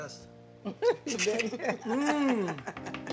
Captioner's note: slurps